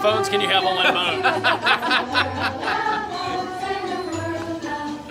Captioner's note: laughter